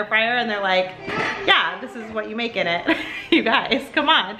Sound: laughs

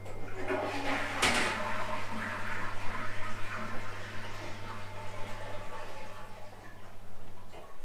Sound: flushing toilet sounds

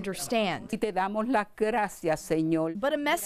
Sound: speaking spanish

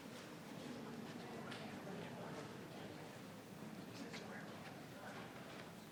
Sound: people continue chattering

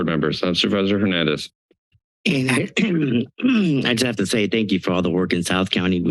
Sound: clears throat

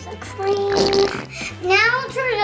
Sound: squirting sound

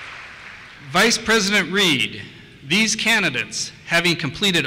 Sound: voiceover

